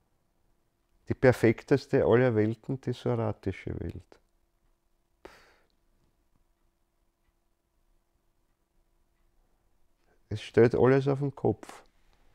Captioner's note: pause in speech